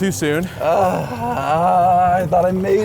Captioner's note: groaning